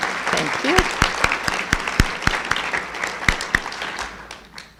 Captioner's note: applauding